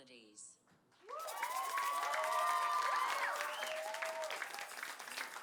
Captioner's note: applause